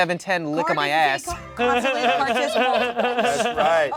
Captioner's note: everyone laughs